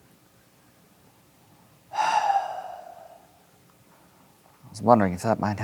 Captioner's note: sighs